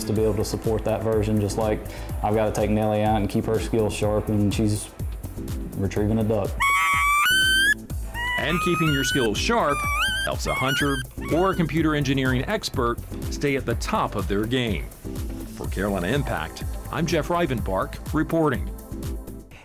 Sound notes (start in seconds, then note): 6.6 duck call blowing